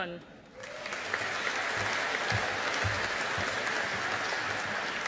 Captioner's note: audience applauding